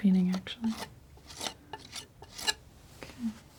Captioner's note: scratching